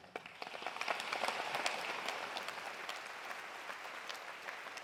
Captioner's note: audience applauding